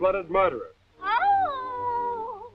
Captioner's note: Henrietta wailing